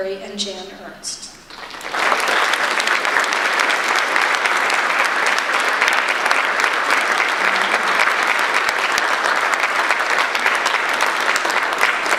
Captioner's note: audience applause